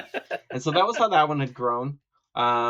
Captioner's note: laughing